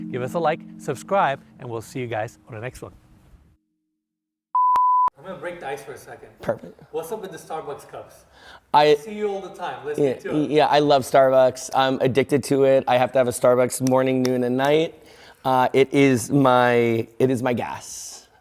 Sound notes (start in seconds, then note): 4.5 beep